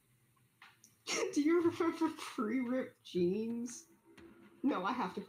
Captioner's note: laughs